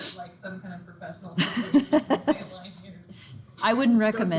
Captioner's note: instructor laughing